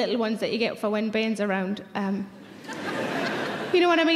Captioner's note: audience laughing